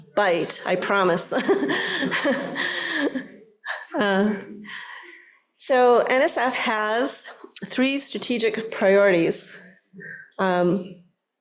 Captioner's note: laughter